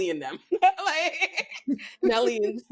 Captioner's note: both laughing